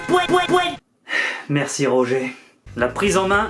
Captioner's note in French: Soupir